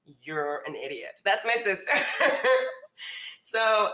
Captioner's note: laughs